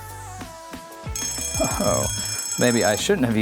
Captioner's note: bell ringing